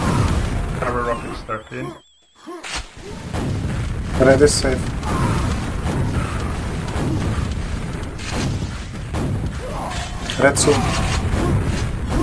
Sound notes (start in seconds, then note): none